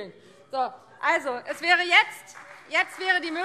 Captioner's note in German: Beifall Freie Demokraten